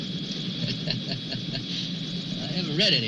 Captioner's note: laughing